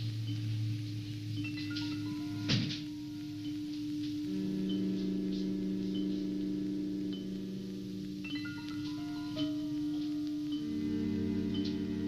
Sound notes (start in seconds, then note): 2.5 banging; 7.4 dramatic music